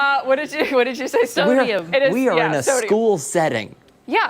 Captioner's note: laughter